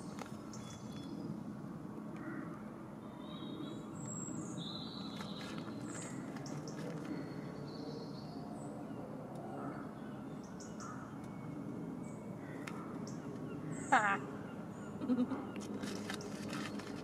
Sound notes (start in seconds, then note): 15.0 chuckle